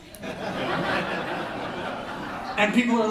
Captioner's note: laughter